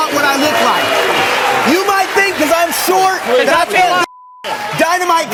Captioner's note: beep